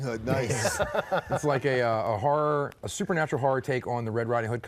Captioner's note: laughs